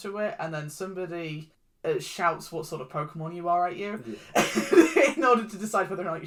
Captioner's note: laughs